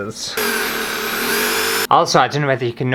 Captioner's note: power Drill Noises